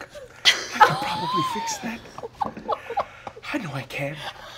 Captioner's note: giggling